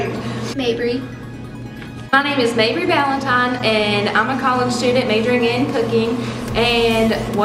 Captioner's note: thick Southern accent